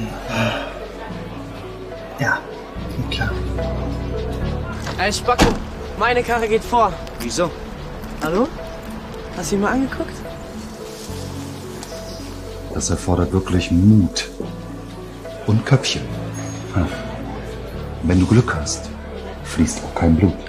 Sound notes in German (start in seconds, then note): 0.1 Seufzen; 5.3 Autotür knallt zu; 15.7 Restaurant-Atmosphäre im Hintergrund